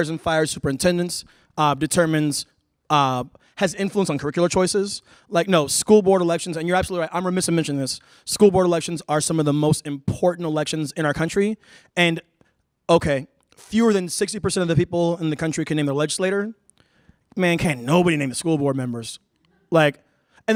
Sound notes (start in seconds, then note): none